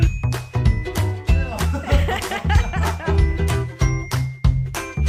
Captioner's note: laughing